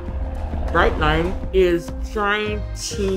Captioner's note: airplane engine roaring